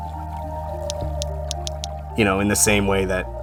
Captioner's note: whale clicking